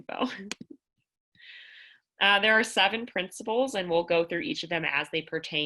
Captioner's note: laughter